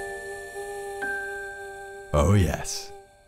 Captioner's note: ding